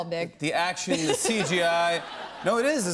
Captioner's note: laughs